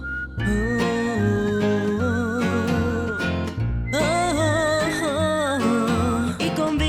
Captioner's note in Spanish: Tarareando